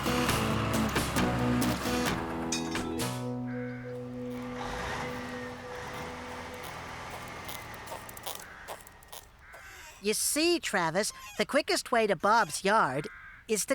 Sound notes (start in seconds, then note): 0.2 engines Running; 6.9 shoes Squeaking